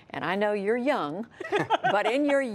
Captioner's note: laughter